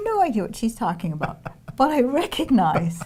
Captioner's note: laughing